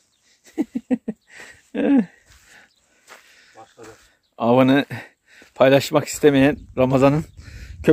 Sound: laughter

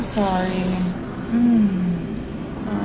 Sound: sigh

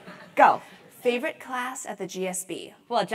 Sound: laugh

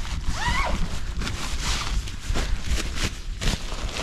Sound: zippering

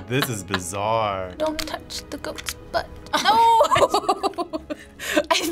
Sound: laughing

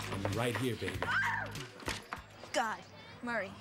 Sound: screams

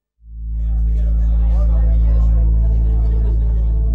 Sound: chatter

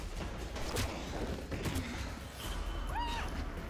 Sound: thudding; punching; screaming

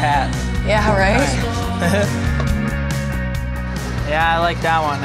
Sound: laughs

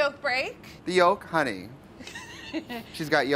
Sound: laughs

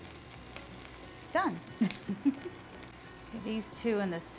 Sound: laughs

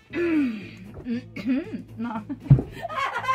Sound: strains, sounds pleased; laughs; laughter

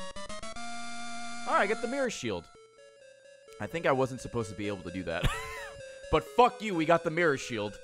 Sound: laughs

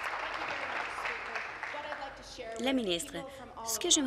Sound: applause

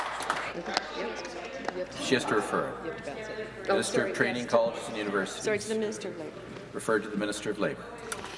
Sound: applause

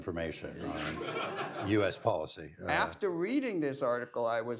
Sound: laughter

